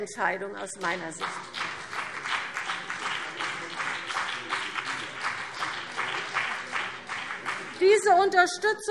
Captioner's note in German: Beifall BÜNDNIS 90/DIE GRÜNEN und vereinzelt CDU